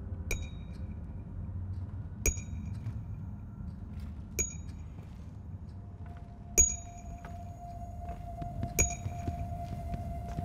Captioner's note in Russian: звон кольца по стакану